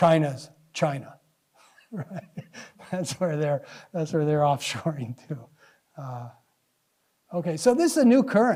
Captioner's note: laughs